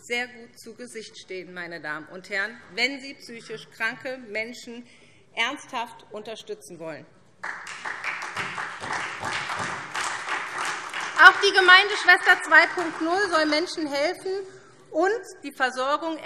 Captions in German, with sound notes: sehr gut zu Gesicht stehen, wenn sie psychisch kranke Menschen ernsthaft unterstützen will. [Beifall SPD] Auch die Gemeindeschwester 2.0 soll Menschen helfen und die Versorgung